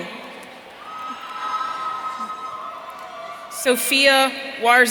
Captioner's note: audience cheering